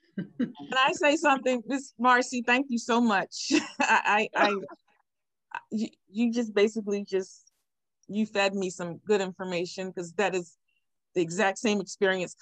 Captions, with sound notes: - Can I say something Ms. Marcy, thank you so much. (chuckles) I, you just basically just, you fed me some good information, 'cause that is the exact same experience